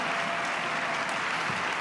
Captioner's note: cheers and applause